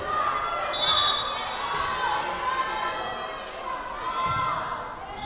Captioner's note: whistle blowing